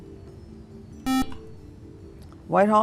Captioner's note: buzzer